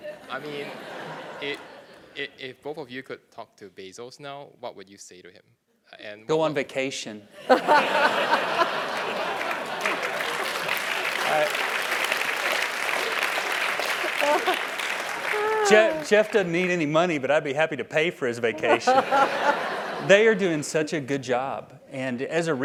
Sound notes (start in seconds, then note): 7.4 laugh; 8.2 applause; 18.5 laugh